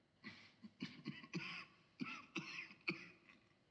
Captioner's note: coughs